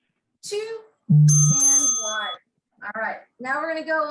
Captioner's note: bell rings